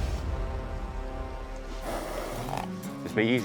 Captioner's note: horse blusters